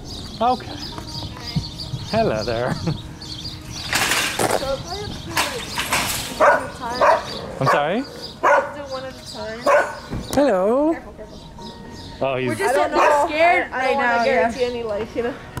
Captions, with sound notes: [Birds chirps] Okay. Hi. Hello there. So we probably have to do like one [Barks] at a time. [Barks] I'm sorry? Do one at a time. Hello. Careful, careful. Oh he's... We're just that, they're scared right now, yeah. I don't know, I don't wanna guarantee any life, you know?